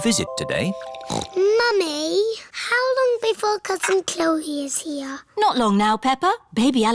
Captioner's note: snorts